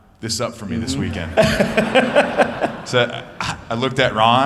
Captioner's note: laughter